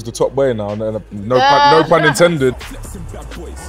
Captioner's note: laughing